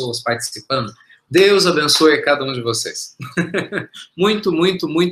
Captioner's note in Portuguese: risos